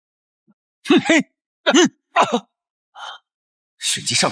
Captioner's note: grunts